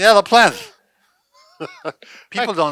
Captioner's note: chuckles